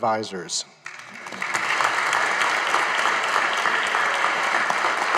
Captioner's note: audience applauding